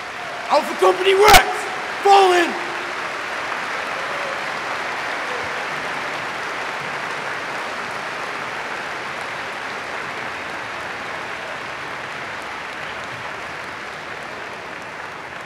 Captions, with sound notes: Alpha Company rats, fall in! [APPLAUSE]